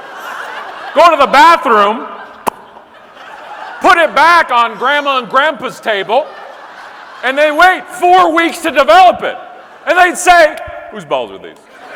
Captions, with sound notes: go to the bathroom, (pops lips), put it back on grandma and grandpa's table and then wait four weeks to develop it. And they'd say, whose balls are these?